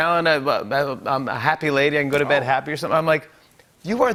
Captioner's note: none